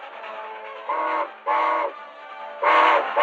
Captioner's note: train horn blaring